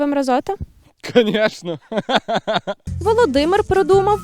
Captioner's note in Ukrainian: сміється